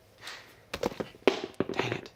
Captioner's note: shoe thunks